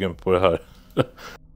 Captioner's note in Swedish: Skratt